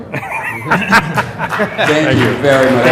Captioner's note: laughter